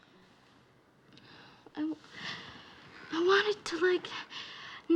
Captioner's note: sighing